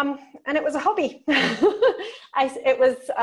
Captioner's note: laughs